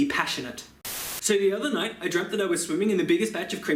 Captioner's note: Static